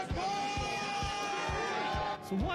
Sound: cheers

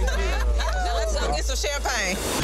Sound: group laughing

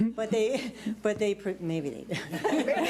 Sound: laughs

